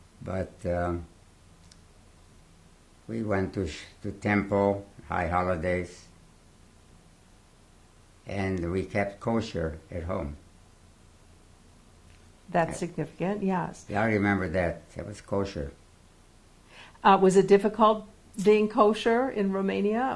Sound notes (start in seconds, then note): 5.7 pauses for 3 seconds